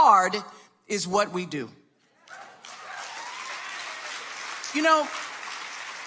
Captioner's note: audience applauding